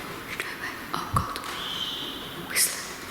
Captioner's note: whispering